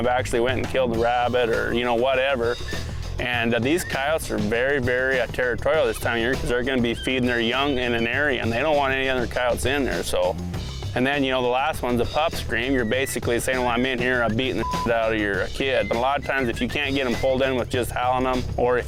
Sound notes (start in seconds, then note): 14.5 beep